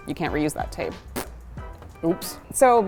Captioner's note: blows raspberry